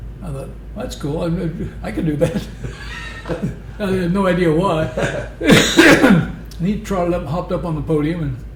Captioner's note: laughter